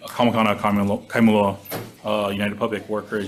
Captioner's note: speaking foreign language